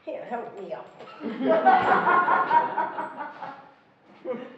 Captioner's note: laughing